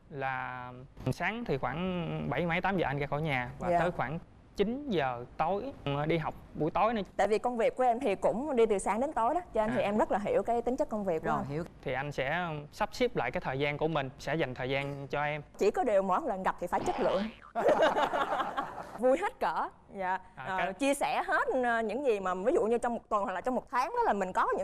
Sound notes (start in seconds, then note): 16.8 laughing